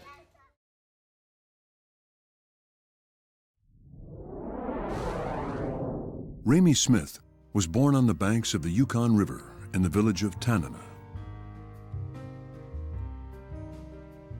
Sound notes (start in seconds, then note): 3.7 map whooshing; 11.5 gentle music